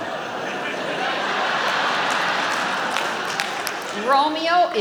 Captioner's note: audience laughing